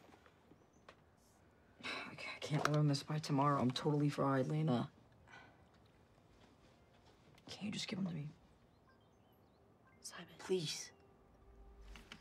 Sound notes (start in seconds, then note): none